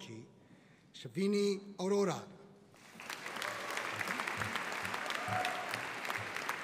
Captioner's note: audience applauding